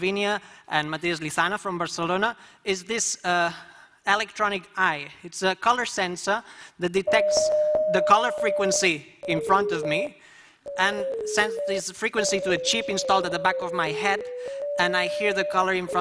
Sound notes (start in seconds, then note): 10.6 frequency sounds